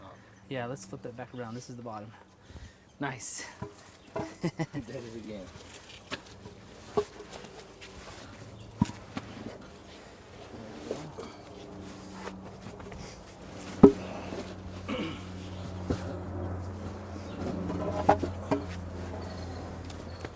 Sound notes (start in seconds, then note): 4.2 laugh; 10.9 cough